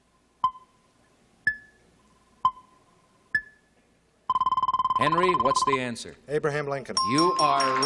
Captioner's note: beeping